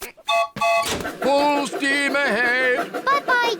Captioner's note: piglets giggle; toots train whistle